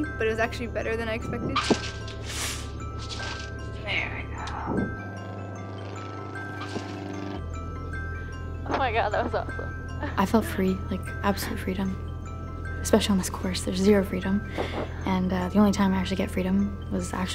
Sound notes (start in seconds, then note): 1.9 rattling thump; 3.5 sharp inhale; 5.5 airplane rumbles